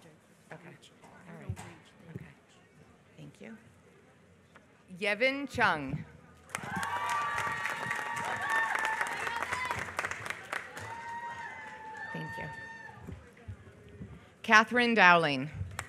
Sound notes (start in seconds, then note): 6.4 applause